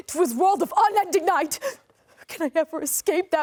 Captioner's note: gasps